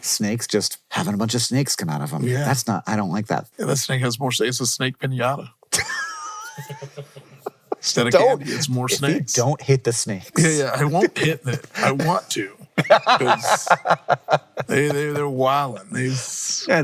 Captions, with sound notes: Snakes just having a bunch of snakes come out of them. That's not, I don't like that. Yeah, that snake has more snakes. It's a snake pinata. (everyone laughing) Instead of, it's more snakes. If you don't hit the snakes. Yeah, yeah. I won't hit that. I want to 'cause they're wiling.